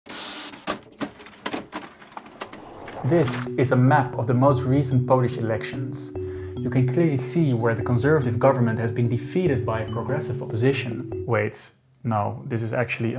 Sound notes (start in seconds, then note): 0.4 paper rustling